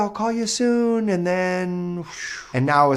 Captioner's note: breath whooshing